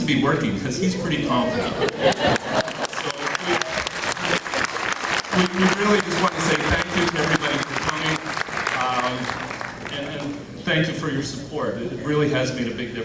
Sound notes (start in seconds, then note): 1.8 clapping